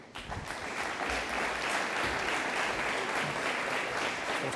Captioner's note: audience applauding